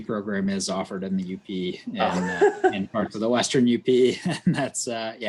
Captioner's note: laughs